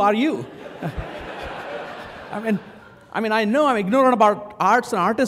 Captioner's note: laugh